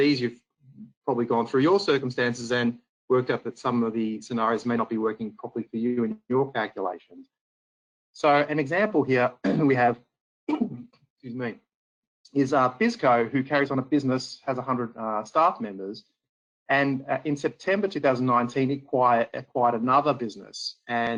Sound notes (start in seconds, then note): 10.5 coughs